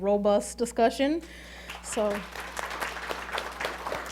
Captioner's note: applauding